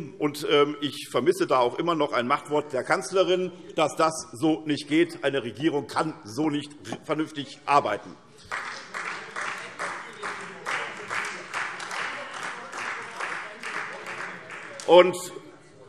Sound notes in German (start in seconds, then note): 8.4 Beifall SPD